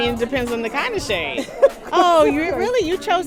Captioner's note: laughter